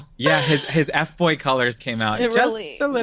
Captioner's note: laughing loudly